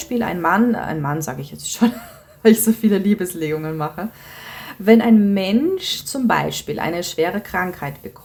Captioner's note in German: japst